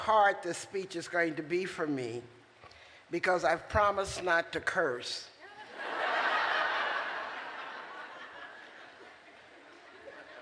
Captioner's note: laughter